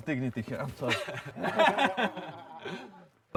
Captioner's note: laughing